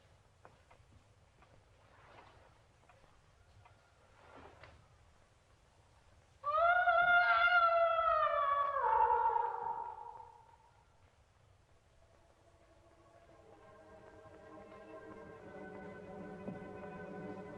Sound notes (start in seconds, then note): 6.4 Elfie wailing; 12.7 dramatic orchestral music